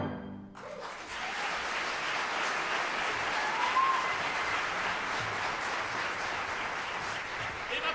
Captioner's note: applause